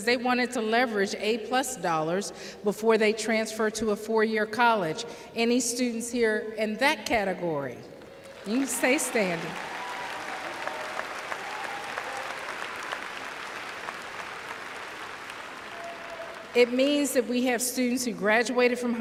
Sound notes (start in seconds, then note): 10.3 applause